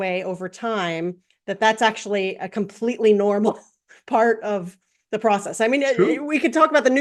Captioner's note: laugh